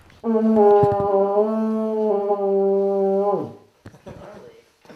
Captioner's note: horn sound